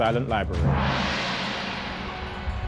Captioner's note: oriental music; gong banging